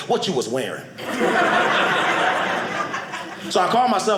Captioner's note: audience laughing